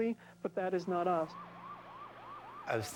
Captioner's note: sirens wailing